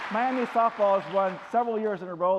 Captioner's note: applause